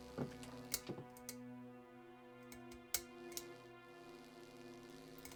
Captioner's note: electricity buzzing; light fixture clicking; electricity buzzing